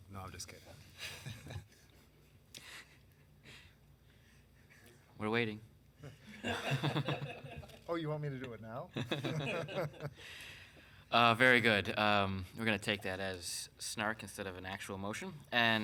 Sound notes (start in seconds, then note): 1.8 laughs; 6.0 councilmembers laughing; 9.0 councilmembers laughing